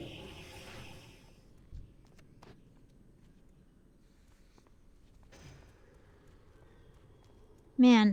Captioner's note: silence